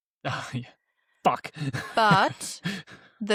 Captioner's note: laughs